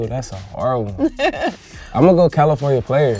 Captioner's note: laughs